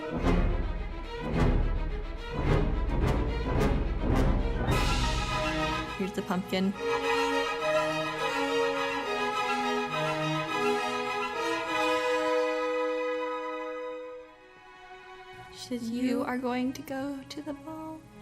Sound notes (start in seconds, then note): 6.7 dramatic pumpkin noises